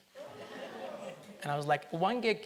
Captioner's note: audience laughs